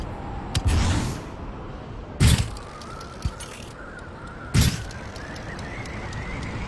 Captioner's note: wind gushing